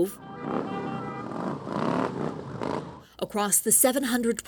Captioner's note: motorcycles revving